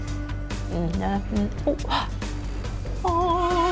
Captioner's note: gasps